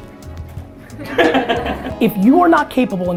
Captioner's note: laughing